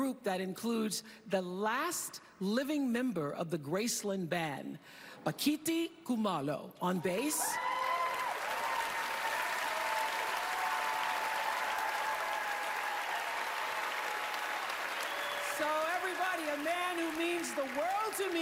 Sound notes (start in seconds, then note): 8.9 cheering, applause